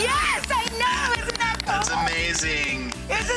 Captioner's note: clapping